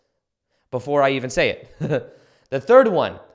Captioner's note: laughs